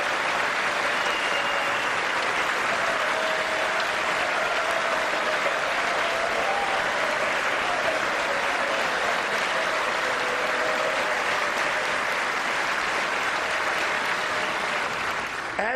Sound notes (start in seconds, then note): 11.8 applause